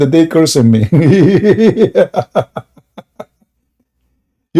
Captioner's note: Ketawa